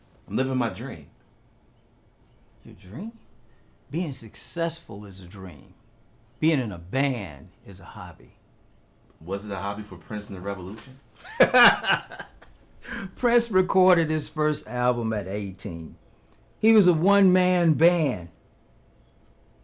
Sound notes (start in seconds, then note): 11.2 laughing